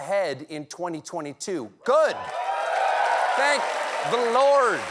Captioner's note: cheers and applause